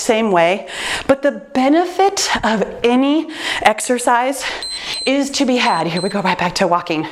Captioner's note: timer beeps